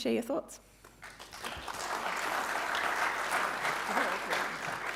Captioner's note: audience clapping